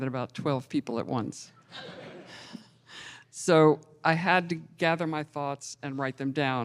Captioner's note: laughter